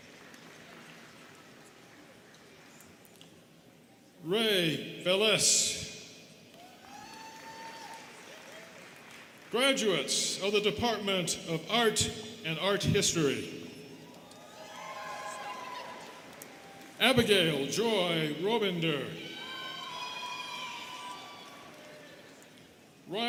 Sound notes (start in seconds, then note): 0.0 students clapping; 6.5 students cheering and clapping; 14.0 students cheering; 19.1 students cheering